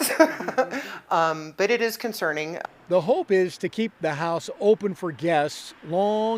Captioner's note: laughs